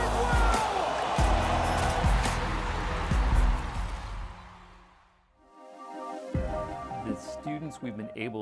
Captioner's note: cheering